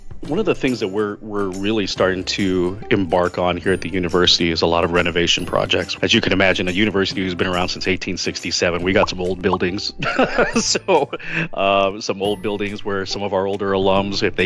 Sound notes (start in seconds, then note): 10.0 laughs